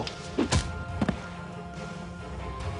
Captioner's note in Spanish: Golpetazo